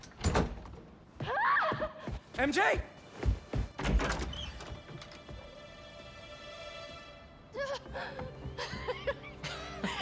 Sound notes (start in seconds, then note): 1.2 scream; 8.6 laughs